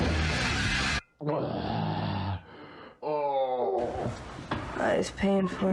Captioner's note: hangover noises